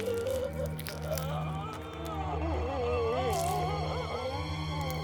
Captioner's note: flesh sounds